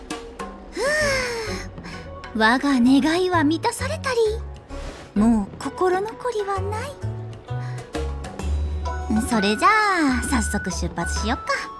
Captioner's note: sigh